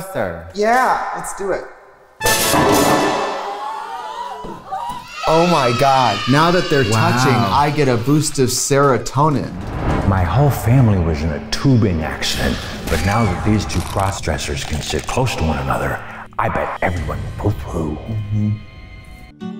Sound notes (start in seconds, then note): 2.2 fanfare plays; 3.8 women gasping and yelling